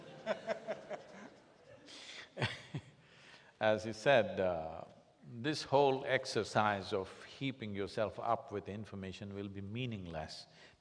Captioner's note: both laugh